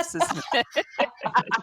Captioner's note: laughter